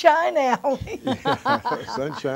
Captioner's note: laughter